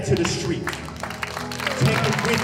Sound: audience cheering and applauding

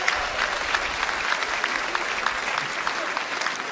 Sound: applause

